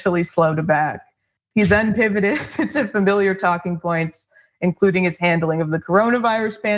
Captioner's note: laugh